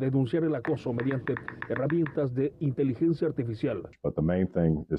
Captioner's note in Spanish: habla en ingés